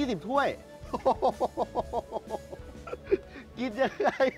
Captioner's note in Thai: เสียงหัวเราะ